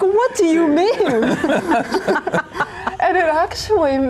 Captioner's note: all laughing